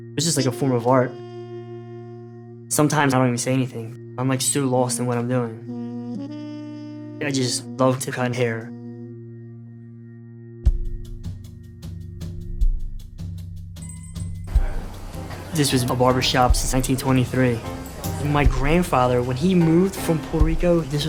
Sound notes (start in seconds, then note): 10.8 suspenseful music; 13.8 bell rings